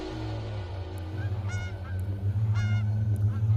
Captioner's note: seagulls